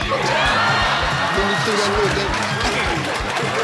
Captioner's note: audience laughing